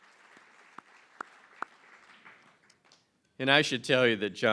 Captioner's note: applause